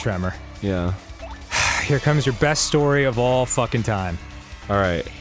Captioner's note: sighs